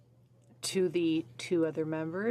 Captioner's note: speaking French